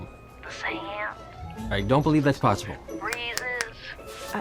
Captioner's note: snaps fingers